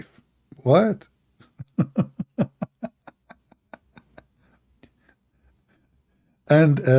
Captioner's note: Ketawa